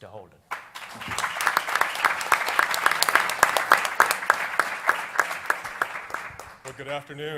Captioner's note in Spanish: Aplausos